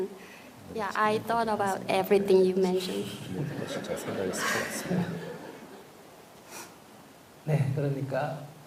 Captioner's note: audience Laughter/Questioner Sigh